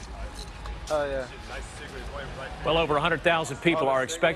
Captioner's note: chattering